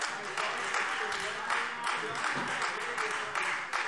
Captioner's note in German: Beifall Freie Demokraten - Zurufe